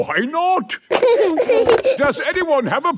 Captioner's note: giggling